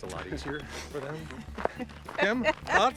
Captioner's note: laughing